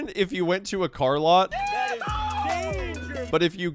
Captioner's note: whooping